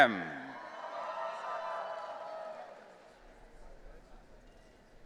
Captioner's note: audience cheering